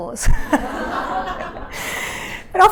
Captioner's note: laughter